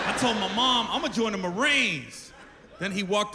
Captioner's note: laughter